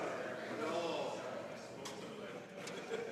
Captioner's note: speaking French